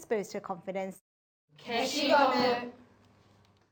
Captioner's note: class speaks japanese